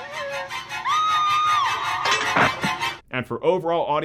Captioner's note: woman screams